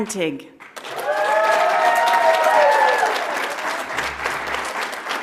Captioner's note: audience applauds